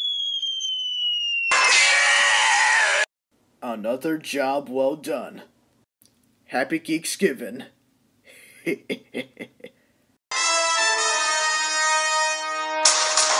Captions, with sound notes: Another job well done. Happy Geeksgiving! (laughs)